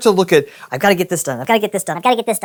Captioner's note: high pitched voice effect